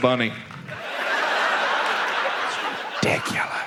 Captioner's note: audience laughs